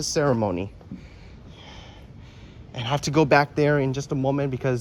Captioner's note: breathes deeply